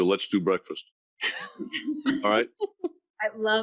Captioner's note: laughing